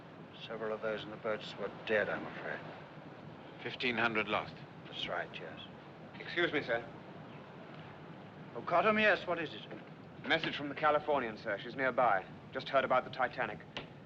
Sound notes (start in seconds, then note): none